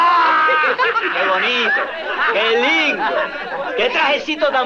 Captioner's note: Spanish spoken audio